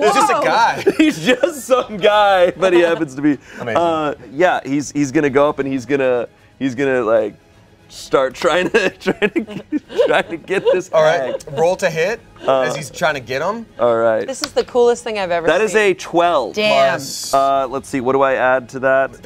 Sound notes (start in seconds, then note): 8.5 laughs